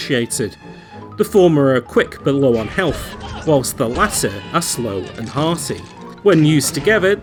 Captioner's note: skeleton whails, broken bones